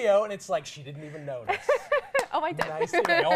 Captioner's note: laughs